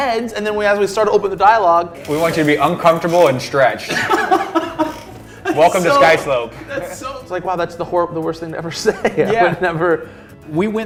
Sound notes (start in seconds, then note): 2.2 laughing